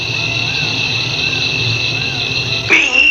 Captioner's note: makes animal noises